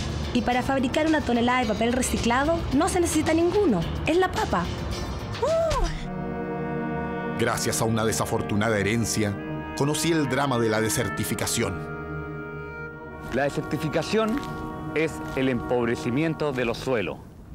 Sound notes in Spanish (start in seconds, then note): none